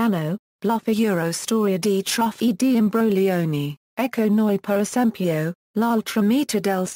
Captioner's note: Italian; Italian